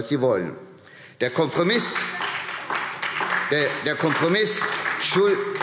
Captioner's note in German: Beifall SPD und vereinzelt DIE LINKE